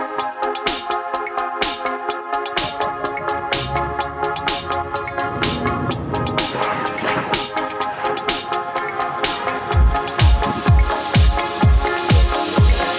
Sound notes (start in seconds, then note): 5.3 car engine roaring; 10.3 upbeat music